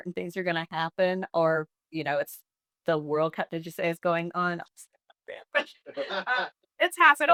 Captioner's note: laughing